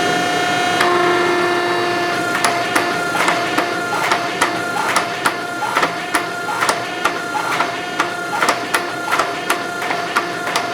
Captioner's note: sound from forge